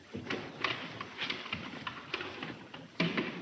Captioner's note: box clattering